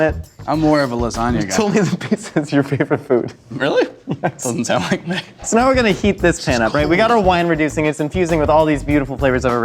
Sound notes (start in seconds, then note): 4.7 laughs